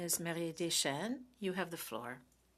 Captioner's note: speaking French